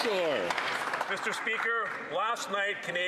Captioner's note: some Applause